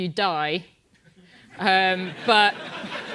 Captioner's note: laugh